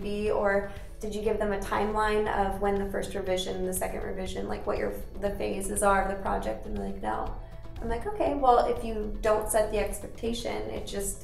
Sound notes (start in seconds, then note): none